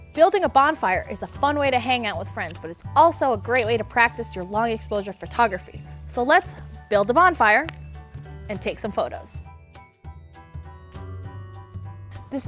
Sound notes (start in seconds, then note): 7.6 finger snapping